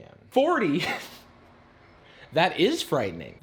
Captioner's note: laughing